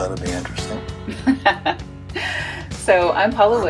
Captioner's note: laughs